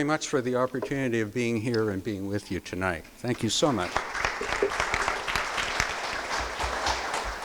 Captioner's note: crowd applause